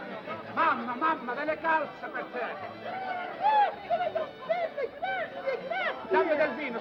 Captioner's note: speaking foreign language